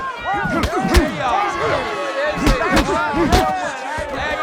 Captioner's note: smacking